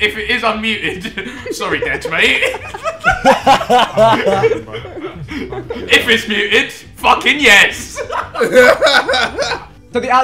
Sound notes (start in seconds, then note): 2.9 group laughing; 7.8 group laughing